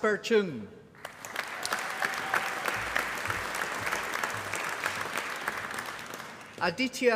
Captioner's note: applause